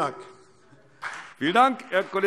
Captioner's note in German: Beifall CDU und BÜNDNIS 90/DIE GRÜNEN